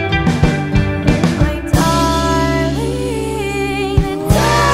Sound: voice softens; voice rises to a near scream

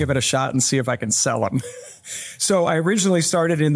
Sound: laughs

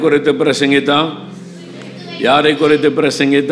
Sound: crowd

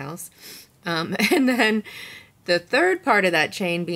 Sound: chuckles

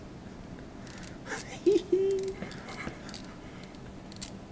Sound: service guy laughing

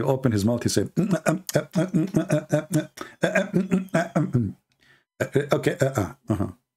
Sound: Ketawa

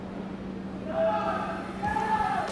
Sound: yelling

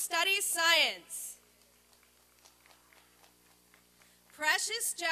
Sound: applause and cheering

